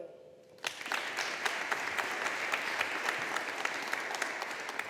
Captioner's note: audience applauding